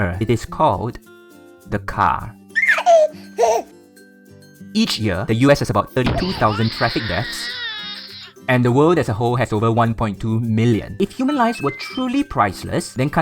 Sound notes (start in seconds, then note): 2.5 baby laughing; 6.1 baby crying